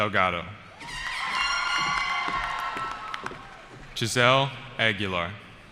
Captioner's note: cheering